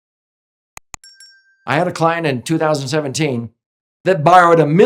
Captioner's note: soft ding